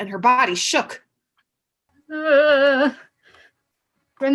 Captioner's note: Simone trembling noises